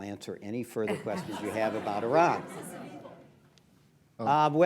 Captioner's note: laughter